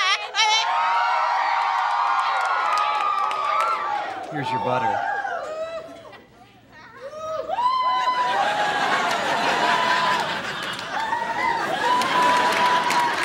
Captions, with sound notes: [cheering] Here's your butter. [laughing]